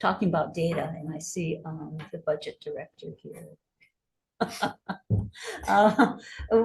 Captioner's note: laughs